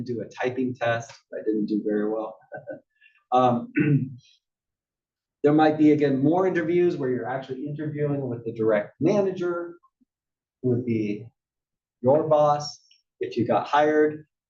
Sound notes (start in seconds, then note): 5.3 cough